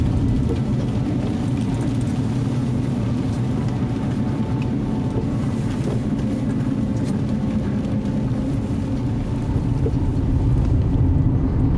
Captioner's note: car Sound